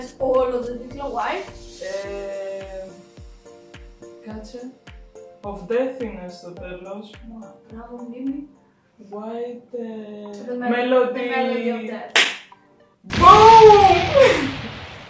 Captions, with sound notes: Y:Say the full title. H:It was something "of death". Y:Wow tha memory of yours. H:Melody of death. (explosion)